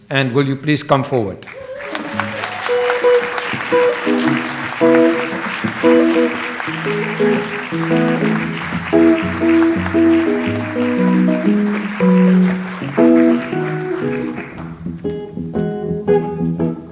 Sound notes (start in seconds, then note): 1.7 audience applauds; 2.9 light jazz music